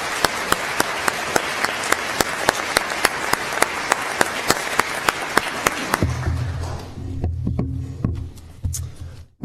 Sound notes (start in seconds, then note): 2.4 applause